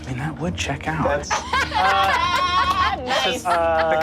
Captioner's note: all laugh